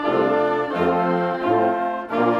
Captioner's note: none